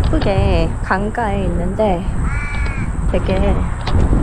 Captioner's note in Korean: 까악